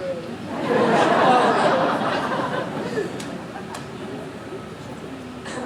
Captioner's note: audience laughing